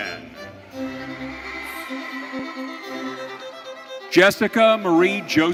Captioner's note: audience cheering